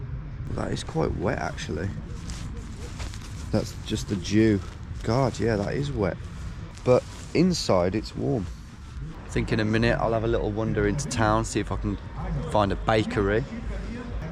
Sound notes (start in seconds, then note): 2.6 bag scuffling